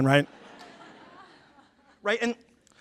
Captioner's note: laughter